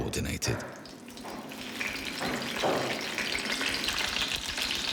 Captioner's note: oil sizzling